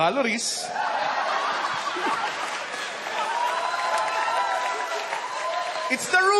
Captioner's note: uproarious laughter